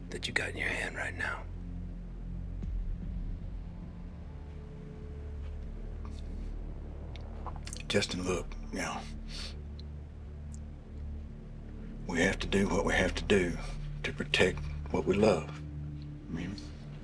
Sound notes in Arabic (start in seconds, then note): 1.8 موسيقى متوترة; 5.3 يبتلع بشدة